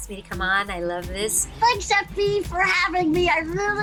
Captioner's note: as Chuckie